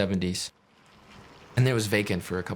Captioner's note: crunching sounds